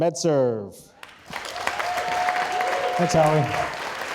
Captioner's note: audience cheering and applauding